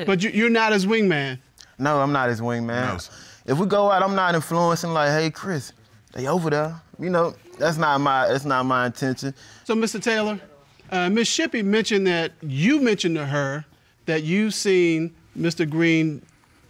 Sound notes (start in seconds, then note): none